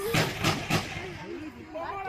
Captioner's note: gunshots